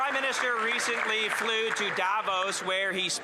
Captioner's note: applause